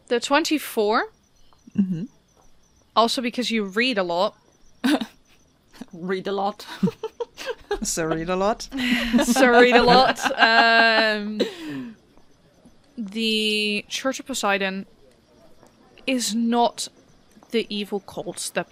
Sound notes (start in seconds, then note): 6.6 laughs; 12.1 laughter